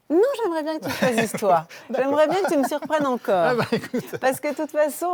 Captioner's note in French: rires